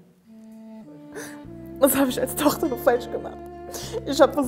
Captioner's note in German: schluchzend